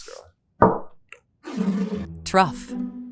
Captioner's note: bottle thuds and scrapes